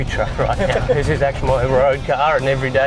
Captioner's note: laughter